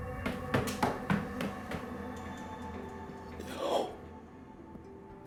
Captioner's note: footsteps receding